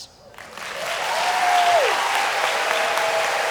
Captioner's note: applause